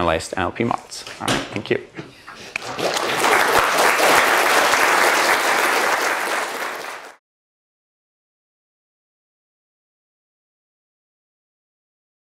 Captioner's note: applause